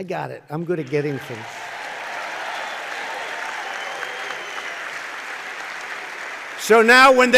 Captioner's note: applause